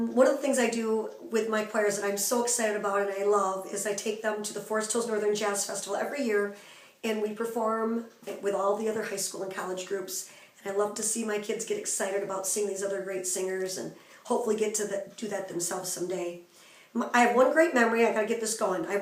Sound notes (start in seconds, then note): none